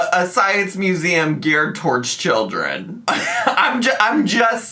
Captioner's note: laughs